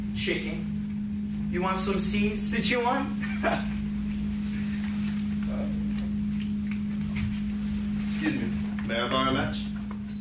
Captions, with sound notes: - Chicken. You want some seeds to chew on (laughs)? Excuse me. May I borrow a match?